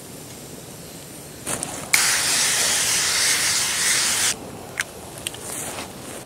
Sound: liquid spraying noise

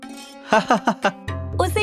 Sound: laughs

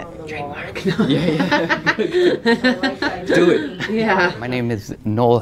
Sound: conversation

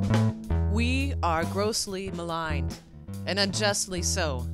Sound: voiceover

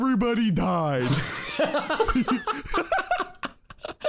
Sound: laughing

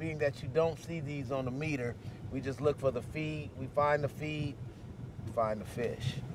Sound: none

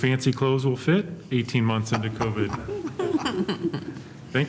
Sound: laughter

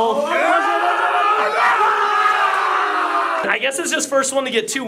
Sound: all yelling

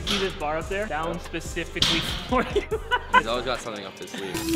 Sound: laughs

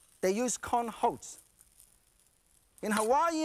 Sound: none

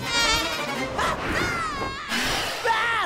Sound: screaming

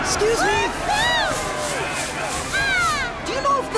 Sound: cheering

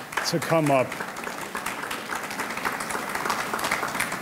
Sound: audience clapping

